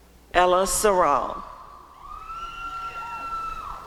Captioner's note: applause and cheering